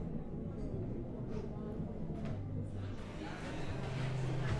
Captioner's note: crowd chattering